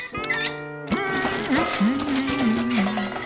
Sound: humming

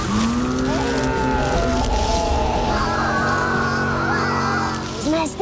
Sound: screaming

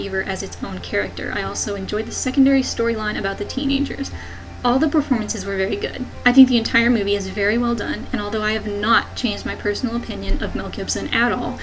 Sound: depressed sigh

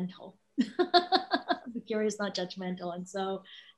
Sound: laughs

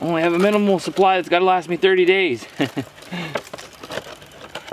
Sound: laughs

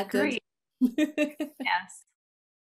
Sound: laugh

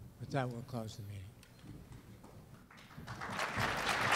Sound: applause

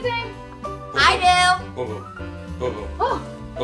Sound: narrator groaning

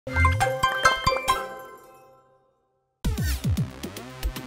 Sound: upbeat bounce sound

